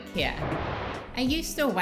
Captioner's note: image whooshing